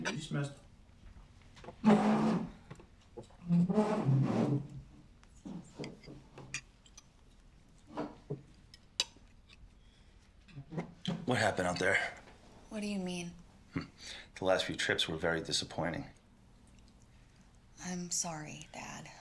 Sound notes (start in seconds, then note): 1.6 chairs scraping